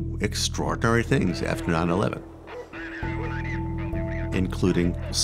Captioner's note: man speaking on radio